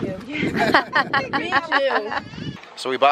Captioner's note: laughter